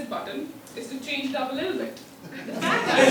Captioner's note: laugh